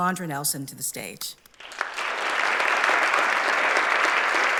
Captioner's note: applause